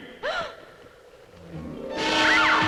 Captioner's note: anita gasps